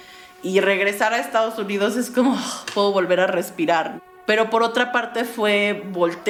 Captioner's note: exhales